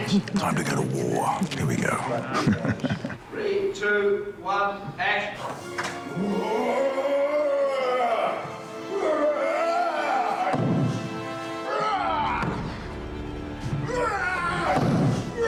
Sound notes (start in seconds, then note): 6.2 roaring